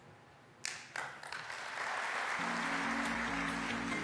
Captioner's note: audience applauding; bright music